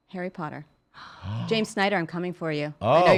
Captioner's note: gasping